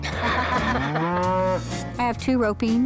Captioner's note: laughter; cow moos